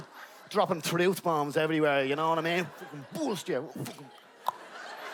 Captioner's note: clic